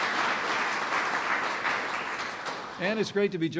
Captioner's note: applause